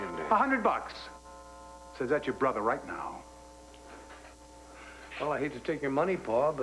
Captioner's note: doorbell rings